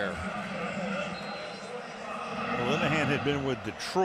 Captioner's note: pa announcement